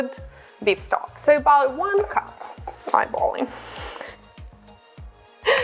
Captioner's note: laughs